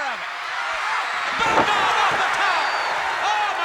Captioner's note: crowd cheering